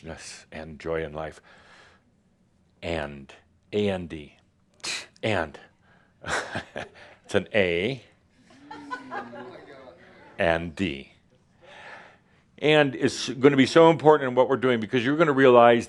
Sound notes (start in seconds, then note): 5.4 Adamus chuckles